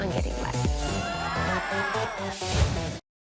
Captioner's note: shouting